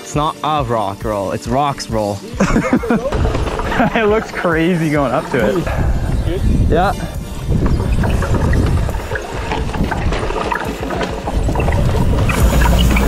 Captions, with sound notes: - It's not a rock roll. It's rocks roll. - (laughs) It looks crazy going up to it. - You good? - Yup. (tires rumbling)